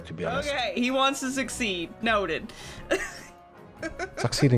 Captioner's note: laughs